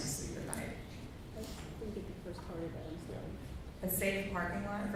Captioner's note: faintly speaking